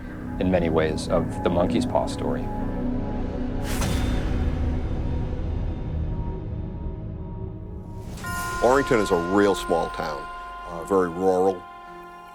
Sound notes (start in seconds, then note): 3.4 electronic tones echoing